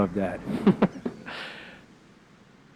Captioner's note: laughs